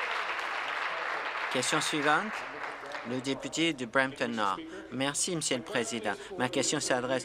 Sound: applause

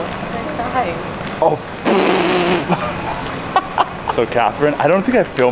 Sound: laughing

